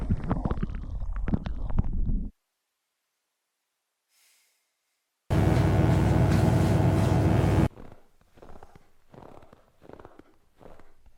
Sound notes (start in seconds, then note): 5.3 electric buzzing